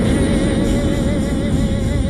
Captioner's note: rocket booms